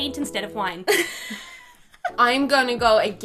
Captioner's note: laughing